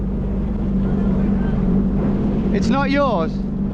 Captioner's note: speaking faintly